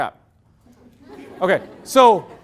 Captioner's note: loud laughter